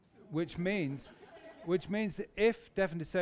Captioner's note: laughter